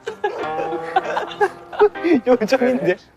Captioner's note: unable to hold the laughter